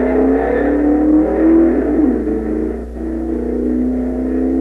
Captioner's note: engines roaring